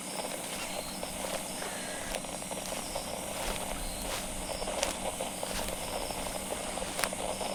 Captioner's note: Alastor walking fx